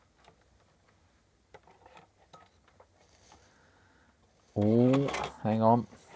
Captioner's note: silence